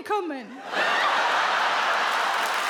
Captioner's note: audience laughs, claps